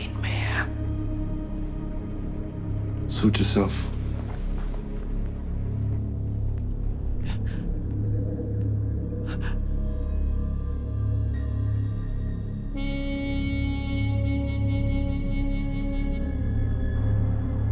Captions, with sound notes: (tense music continues) - Suit yourself. (Alicia shuddering) (tense music continues)